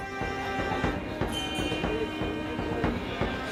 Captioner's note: metal clanking; mellow dramatic music